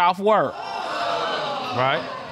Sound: audience exclaims

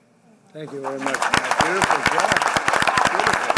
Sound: applause

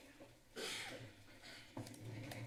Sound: coughing; background chatter; movement noises

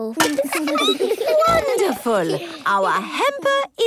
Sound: laughing, snorts

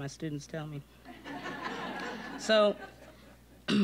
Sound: audience laughing

